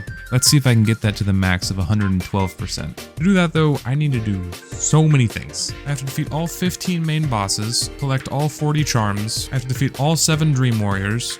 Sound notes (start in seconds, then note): 4.1 bonk